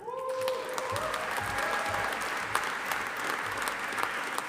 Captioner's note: audience applauding